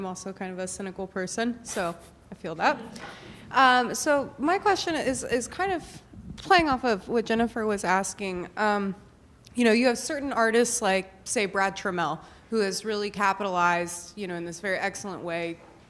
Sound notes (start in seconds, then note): 1.8 laughs